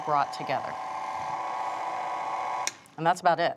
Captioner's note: mixer whirring